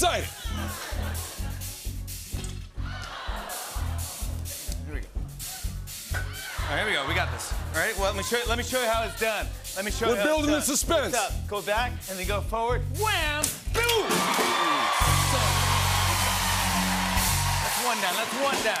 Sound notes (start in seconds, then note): 0.4 laughter; 2.9 audience ohs; 13.4 rimshot; 13.8 cheering and applause